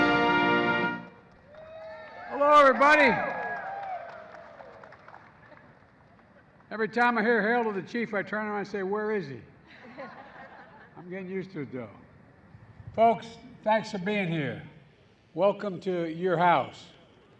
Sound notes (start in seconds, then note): 3.8 applause; 9.6 laughter